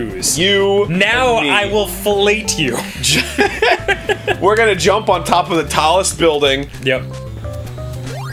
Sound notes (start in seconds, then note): 2.6 both laughing